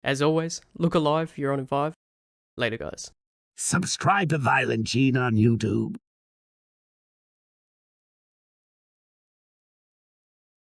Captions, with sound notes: As always look alive you're on in five later guys. (AI voice) Subscribe to ViolentGene on YouTube